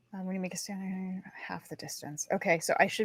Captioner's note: mumbling